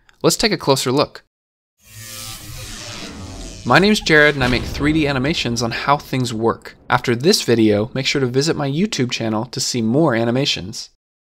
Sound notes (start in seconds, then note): 1.8 electricity whirring; 5.2 metal thudding